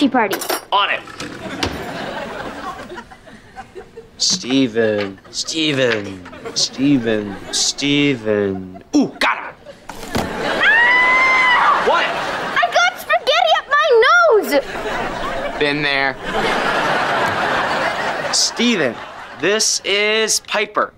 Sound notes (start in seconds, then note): 10.6 screaming